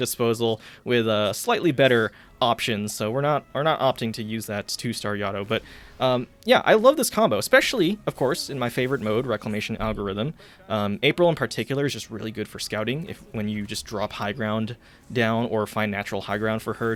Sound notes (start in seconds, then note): none